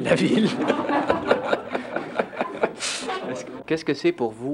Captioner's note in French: rires